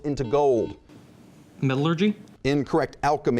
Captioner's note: buzzing